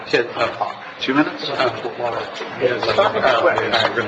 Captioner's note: chattering